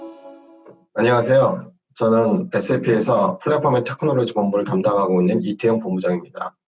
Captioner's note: speaking in foreign language